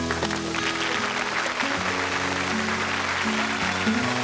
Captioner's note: applause